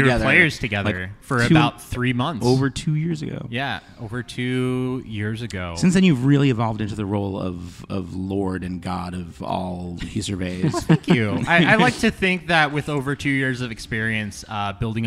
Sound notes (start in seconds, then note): 10.1 laughter from the players